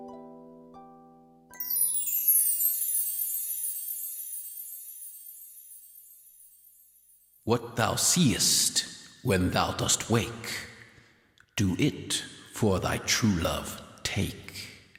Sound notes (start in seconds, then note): 1.5 sound of chimes